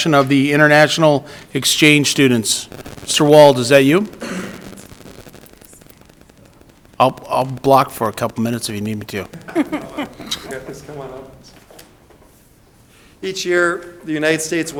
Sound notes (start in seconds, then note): 9.2 members chuckle